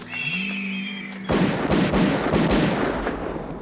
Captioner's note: squeaking